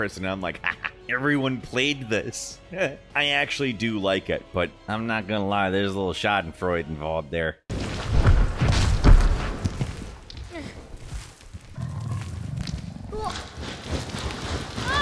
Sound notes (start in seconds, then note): 0.9 chuckles; 7.8 footsteps stomping; 11.7 Ico grunts; 11.7 Trico growling; 14.8 Ico yells